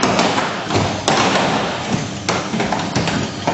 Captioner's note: machine whirring